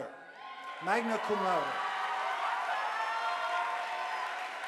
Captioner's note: audience applauding